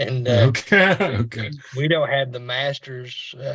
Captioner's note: chuckles